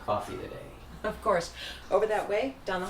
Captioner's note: chuckles